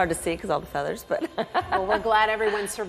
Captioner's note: laughs